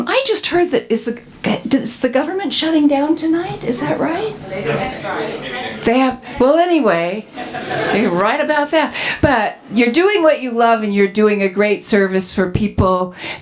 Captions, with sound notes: I just heard that – is the government shutting down tonight? Is that right? [audience murmurring] They have – well anyway, write about that. You're doing what you love and you're doing a great service for people